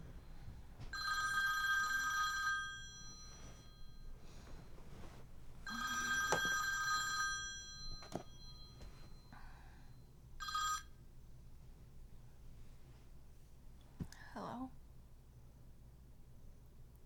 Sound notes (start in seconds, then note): 0.9 phone rings; 5.6 phone rings; 10.4 phone rings